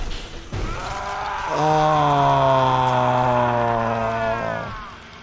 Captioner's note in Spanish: Doey grita